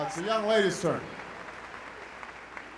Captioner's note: applause